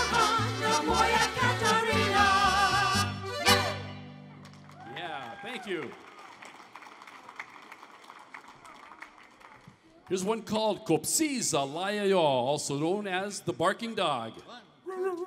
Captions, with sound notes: (audience applauding) - Yeah, thank you. Here's one called (speaking foreign language) also known as The Barking Dog.